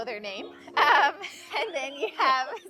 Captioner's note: laughs